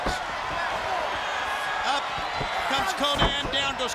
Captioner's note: crowd chatter